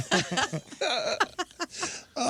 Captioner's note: laughing